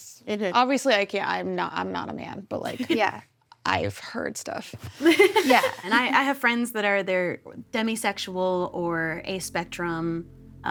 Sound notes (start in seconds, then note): 5.0 giggles